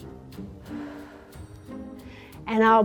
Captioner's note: mouth exhales